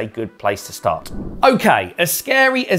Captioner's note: air swooshing